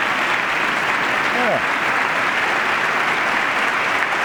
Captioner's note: applause